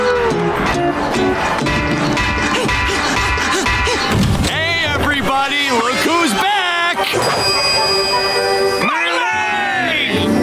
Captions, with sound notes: [clanking] Hey, everybody, look who's back. My leg!